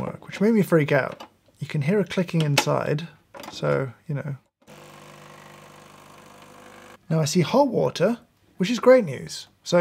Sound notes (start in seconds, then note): 4.7 machine whirring on